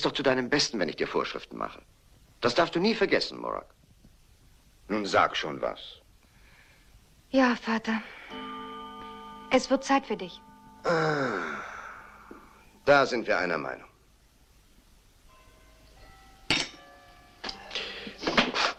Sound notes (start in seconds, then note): 8.1 clock chimes